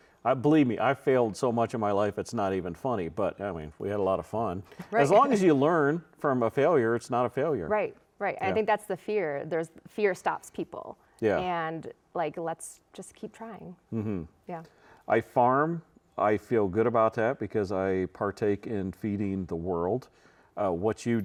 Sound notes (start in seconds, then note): 5.2 chuckles